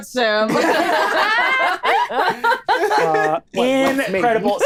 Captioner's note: all laughing